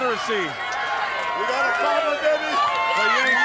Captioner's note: crowd chatter; crowd cheering